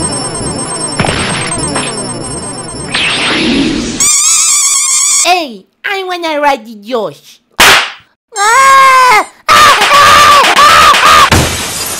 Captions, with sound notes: (Squeaky toy spam) Ayy! I wanna ride the yosh! SMACC *CRYING* PARENTING deds